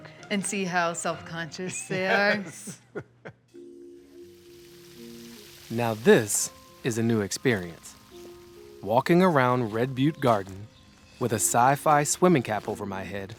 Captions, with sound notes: - And see how self-conscious they are? - (laughs) Yes. (light music) (water splashing) Now this is a new experience. Walking around Red Butte Garden with a sci-fi swimming cap over my head